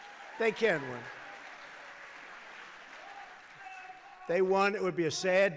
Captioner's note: applause